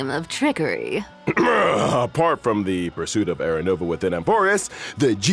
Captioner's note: cough